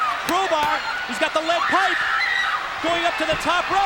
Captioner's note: crowd cheering